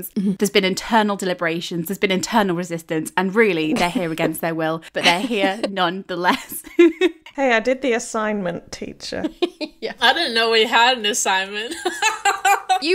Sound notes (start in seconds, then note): 4.9 laughing; 9.2 laughing; 11.8 laughing